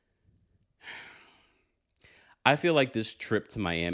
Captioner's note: sighing